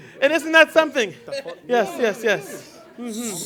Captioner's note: laughter and chatter